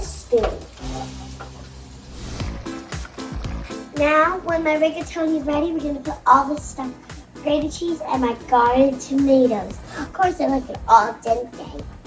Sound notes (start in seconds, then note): 2.3 bouncy piano music; 3.3 simmering